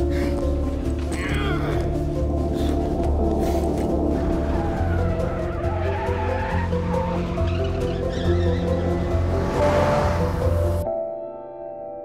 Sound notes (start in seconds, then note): 1.1 grunting; 3.9 tires squealing